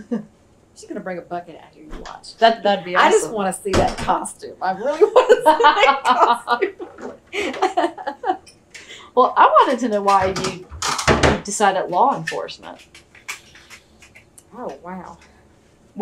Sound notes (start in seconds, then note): 4.8 laughter; 8.4 laughs